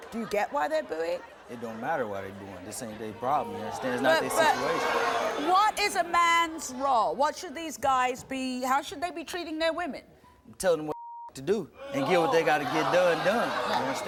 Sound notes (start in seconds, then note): 10.9 beep